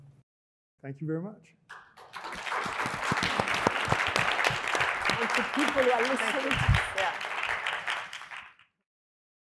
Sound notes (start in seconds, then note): 1.7 audience applauding